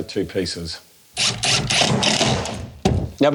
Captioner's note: electric drill sound